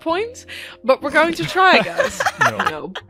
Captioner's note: laughter